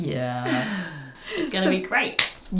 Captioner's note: chuckles